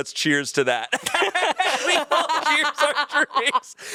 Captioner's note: everyone laughs